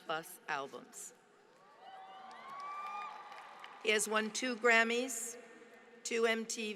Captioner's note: applause